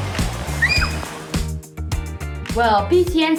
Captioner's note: screams